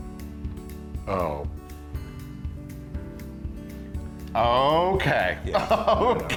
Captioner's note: laugh